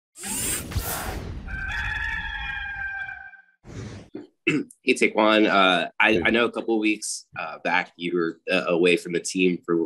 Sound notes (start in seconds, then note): 0.2 whirring; 1.4 rooster crowing